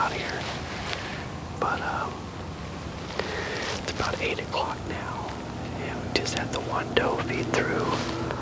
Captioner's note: whispering